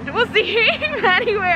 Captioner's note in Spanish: riendo